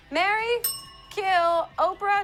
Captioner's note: bell